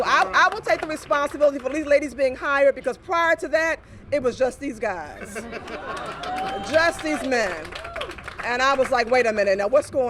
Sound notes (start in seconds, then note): 3.7 cheers and applause